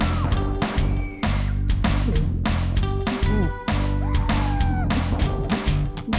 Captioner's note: audible screams in background